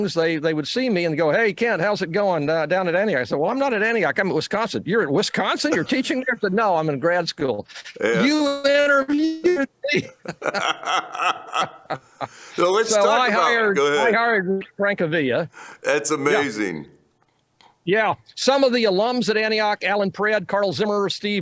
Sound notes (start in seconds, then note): 9.9 laughter